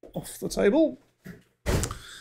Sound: thud

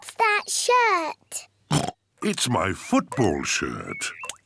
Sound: oinks

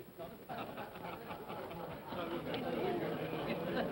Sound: men chuckle

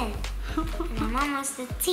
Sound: laughing

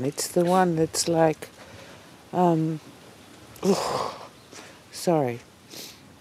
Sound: exhales in frustration

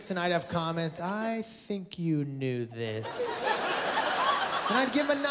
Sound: laughter

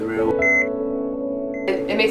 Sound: heart monitor beep

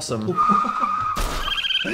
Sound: laughing

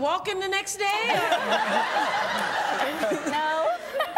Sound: laughter

